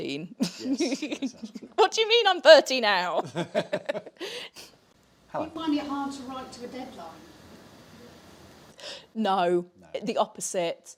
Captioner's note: laughs